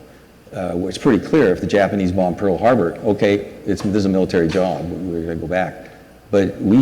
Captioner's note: none